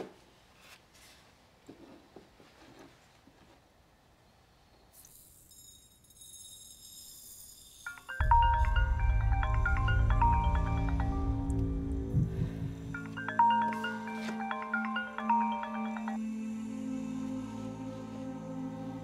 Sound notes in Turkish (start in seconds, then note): 0.7 Sessizlik; 8.1 Telefon çalıyor